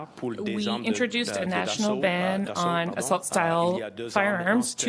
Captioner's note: speaking French